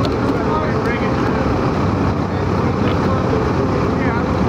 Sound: crew murmurs

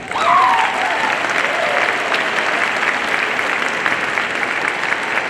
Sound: audience applauding and cheering

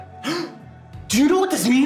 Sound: Gerard gasps

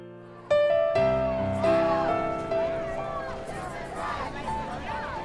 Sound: crowd chanting

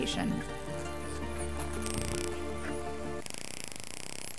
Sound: dolphins whistling

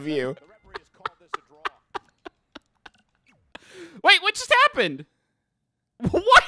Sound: laughing

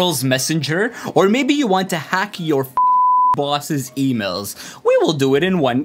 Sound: beep

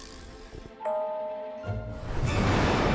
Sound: dinging; organ playing

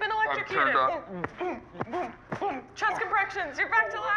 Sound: hand hitting chest

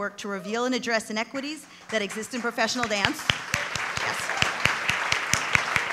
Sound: applause

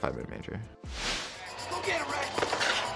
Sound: crowd cheers

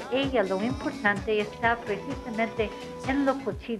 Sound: speaking Spanish

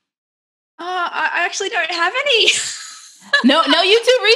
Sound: laughs

